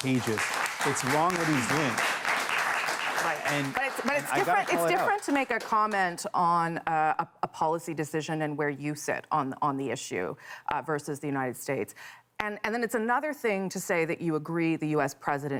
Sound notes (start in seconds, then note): 2.2 applause